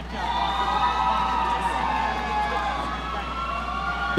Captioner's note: audience cheering